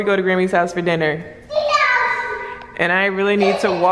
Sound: mumbles

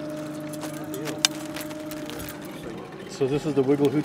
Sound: fish thrashing

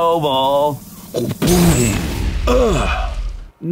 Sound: boom

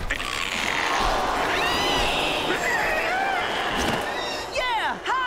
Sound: screeching

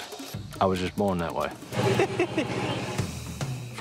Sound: laughter

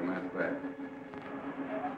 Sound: tires squealing

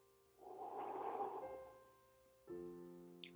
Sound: breath whooshing

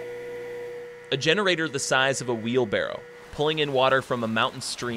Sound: voiceover

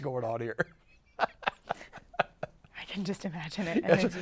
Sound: laughs

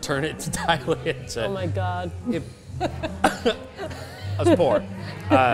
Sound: laughs

